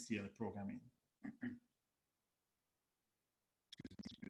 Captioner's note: clears throat